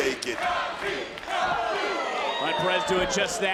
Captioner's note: audience chanting